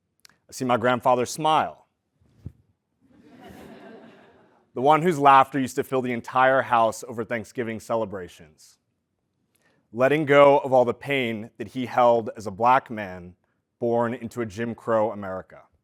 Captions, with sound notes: I see my grandfather's smile. >> [LAUGH] >> The one whose laughter used to fill the entire house over Thanksgiving celebrations. Letting go of all the pain that he held as a black man born into a Jim Crow America.